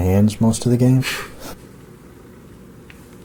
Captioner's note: chuckle